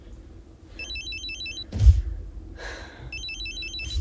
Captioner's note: phone rings